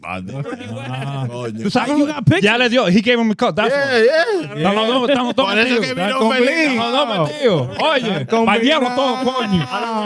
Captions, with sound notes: (Laughing) You got pictures? Yeah, he gave him a cut, that's why. Yeah, yeah. (Speaking In Foreign Language) Bucket,